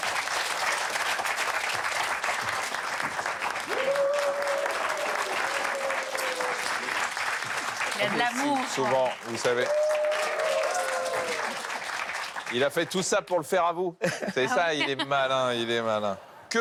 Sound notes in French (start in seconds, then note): 0.2 applaudissements; 6.4 acclamation; 9.8 applaudissements; 14.0 rires